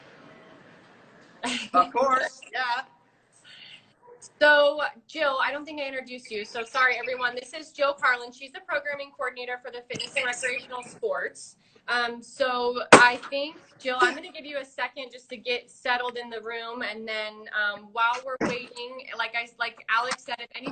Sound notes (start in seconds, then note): 1.4 laughing